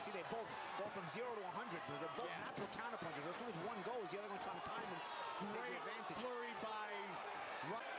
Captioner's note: cheer